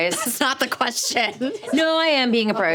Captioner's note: laughing